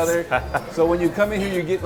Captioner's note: laughs